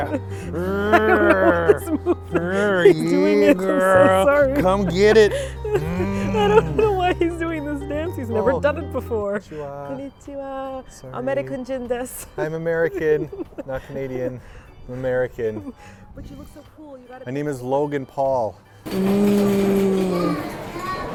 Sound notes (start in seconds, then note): 0.0 laughing; 6.1 laughter; 11.3 speaking Japnese